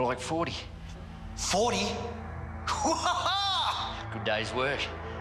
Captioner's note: laughs